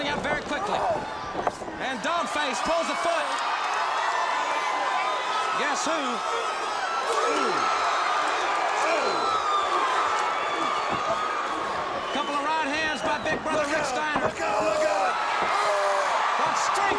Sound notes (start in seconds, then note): 5.1 crowd cheering; 7.5 crowd cheering; 16.7 crowd cheering